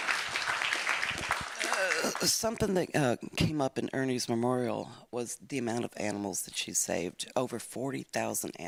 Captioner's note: applause